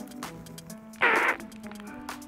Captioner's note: grunting